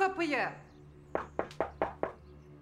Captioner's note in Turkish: Kapı çalar